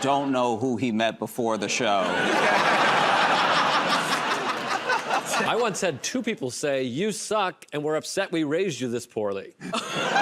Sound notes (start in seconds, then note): 1.8 laughter and applause